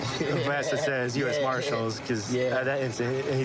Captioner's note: laughing